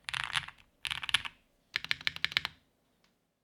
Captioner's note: typing